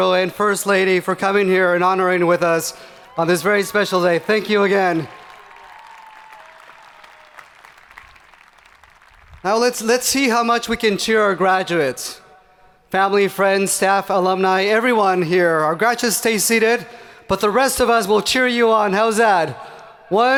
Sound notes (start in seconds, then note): 4.4 hands clapping; 5.7 people cheering